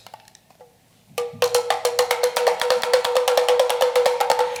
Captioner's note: toy knocking